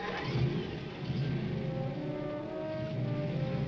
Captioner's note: engine revving